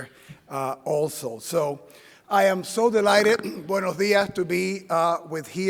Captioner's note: speaking Spanish